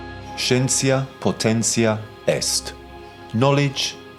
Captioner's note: narrator speaking in foreign language